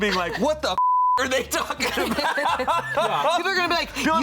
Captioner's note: beep